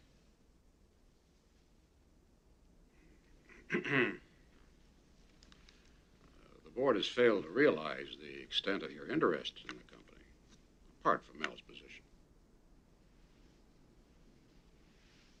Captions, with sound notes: [Clears throat] The board has failed to realise the extent of your interest in the company. Apart from Al's position.